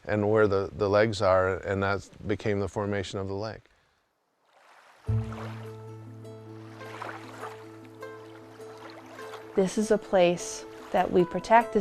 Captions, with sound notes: and where the legs are. And that became the formation of the lake. (water rushing) (serene music) - This is a place that we protect.